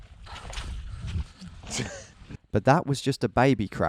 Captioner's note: laughing